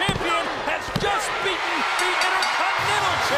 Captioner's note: bell rings